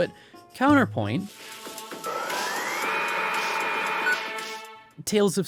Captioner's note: mechanical whirring